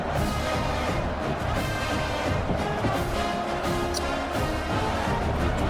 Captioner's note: crowd Noises